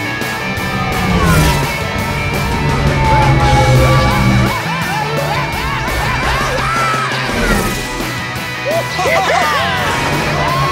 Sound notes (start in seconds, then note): 8.4 laughing